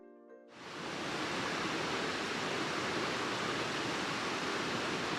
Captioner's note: waterfall noise